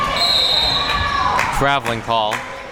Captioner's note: whistle blowing